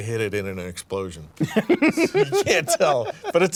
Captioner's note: laughs